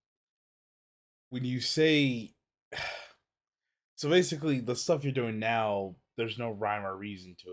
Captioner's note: sighs